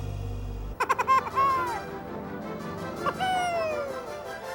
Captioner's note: laughing